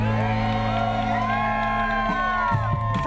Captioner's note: crowd cheering